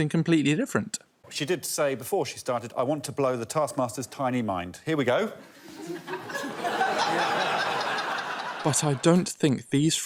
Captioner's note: laughter